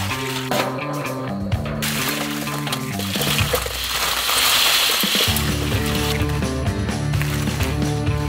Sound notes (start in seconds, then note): 1.9 crawfish rattling; 5.0 upbeat music